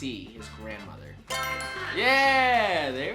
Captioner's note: crowd claps; answer board chimes